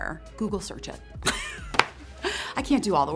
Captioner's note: laughing